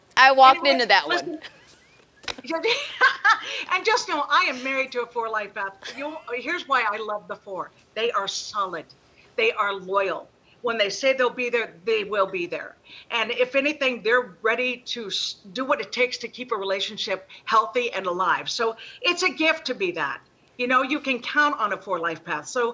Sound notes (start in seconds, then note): 1.1 laughing